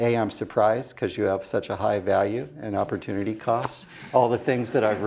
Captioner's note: laugh